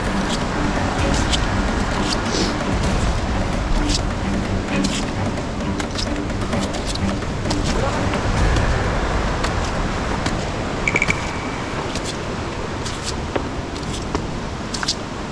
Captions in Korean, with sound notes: [걷는 소리] 등산 할 줄 모르고... 슬리퍼 신고~